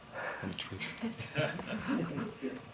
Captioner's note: laughter